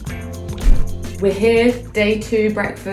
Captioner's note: upbeat rock music continues; viscous liquid pours; air whooshes